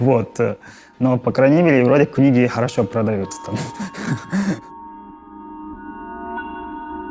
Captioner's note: laughs